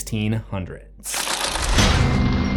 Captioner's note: impact